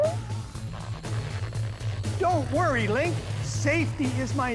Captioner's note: balloon groaning